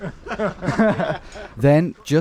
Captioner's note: chuckling